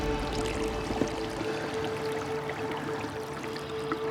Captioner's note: water sloshing